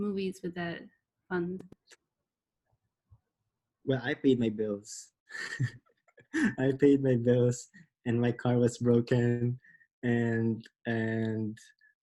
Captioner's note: laughs